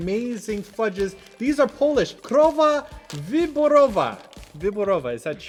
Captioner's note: reading in Polish